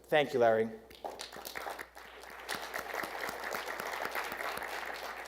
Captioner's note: attendees applauding